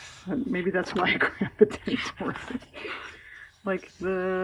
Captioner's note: laughs